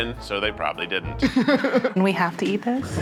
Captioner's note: Zach laughing